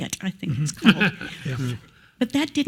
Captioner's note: laugh